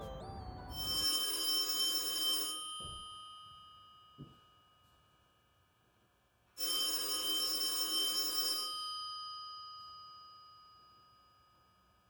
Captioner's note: phone ringing